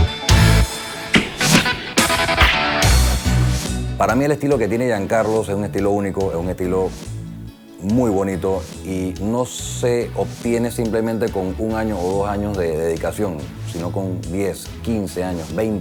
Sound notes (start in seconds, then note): 4.2 speaking Spanish